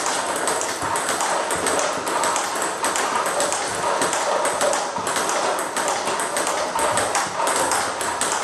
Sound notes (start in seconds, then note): 1.7 ball ping pong hitting continues